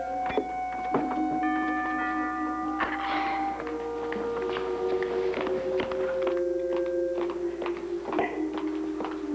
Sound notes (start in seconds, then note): 0.0 doorbell rings; 3.0 rings